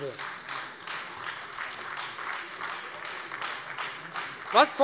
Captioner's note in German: Beifall Freie Demokraten und vereinzelt AfD